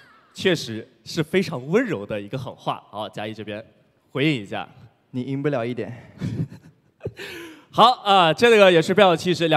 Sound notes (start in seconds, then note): 6.2 chuckles